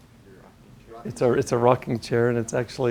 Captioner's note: voiceover